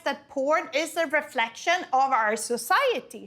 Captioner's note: none